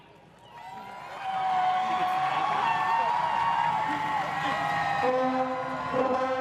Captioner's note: crowd Cheering